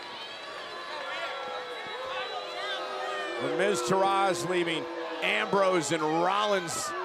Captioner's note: applause